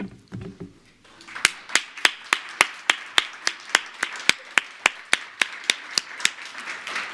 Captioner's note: applause